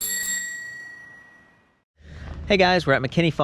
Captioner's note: ringing bell